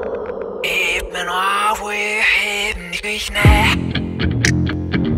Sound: vocalizing backwards

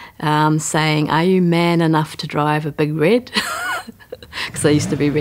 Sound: laughs

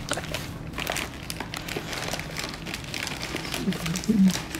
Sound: paper crinkling

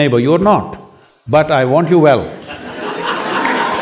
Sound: laughter/Applause

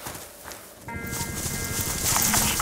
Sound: fast alarm

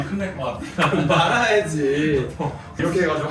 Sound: laughter

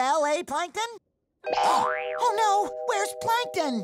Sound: gasping

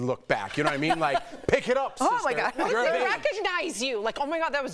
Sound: laughter

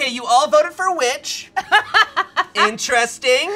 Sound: person laughs

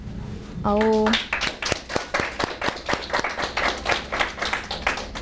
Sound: audience applauding

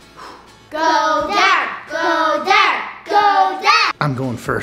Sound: in Unison

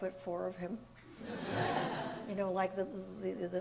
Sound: audience laughs

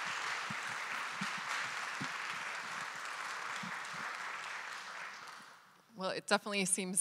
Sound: audience applauding continues

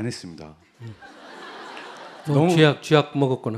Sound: audience Laughter

